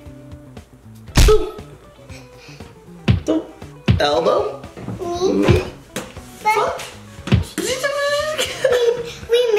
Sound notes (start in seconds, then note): 3.1 bashing; 8.3 laughing